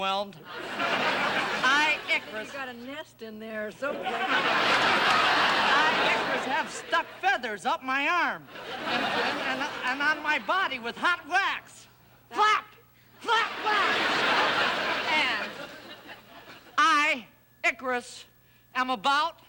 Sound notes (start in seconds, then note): 0.4 audience laughing; 3.8 audience laughing; 8.4 stammers